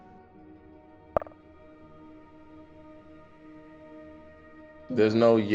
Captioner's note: message clicks